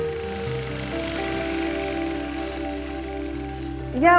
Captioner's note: yard equipment whirring